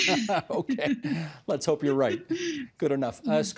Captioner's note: laughter